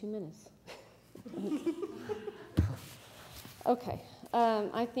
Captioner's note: laughing